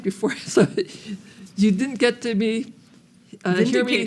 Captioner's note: laughs